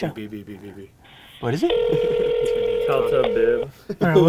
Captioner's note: phone ringing